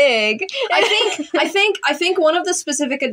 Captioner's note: laugh